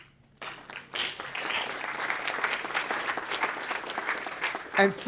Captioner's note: audience applauding